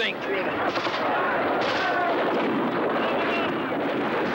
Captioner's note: rapid gunfire continues